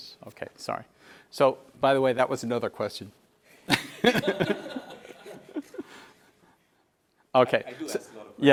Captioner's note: laugh